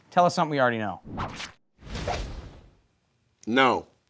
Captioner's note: whip swooshing